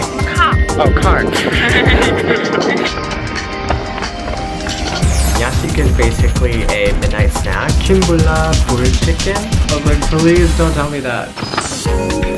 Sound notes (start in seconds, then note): 1.3 giggles; 12.2 new age music